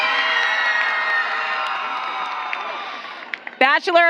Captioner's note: applause